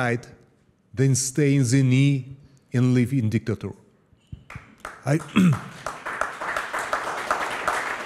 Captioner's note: applause